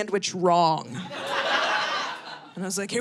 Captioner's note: audience laughing